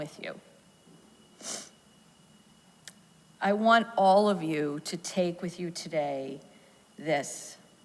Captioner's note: sniffles